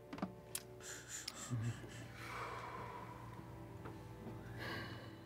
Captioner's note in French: bruits d'émerveillement haletants